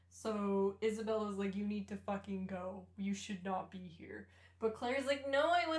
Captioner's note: none